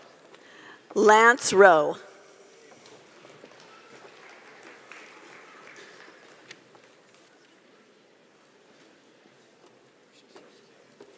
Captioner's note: cheering